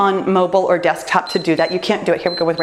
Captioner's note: timer beeps